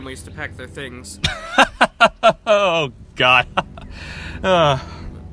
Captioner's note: chuckling